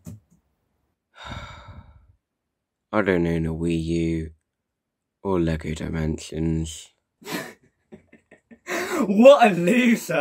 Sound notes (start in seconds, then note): 1.1 sigh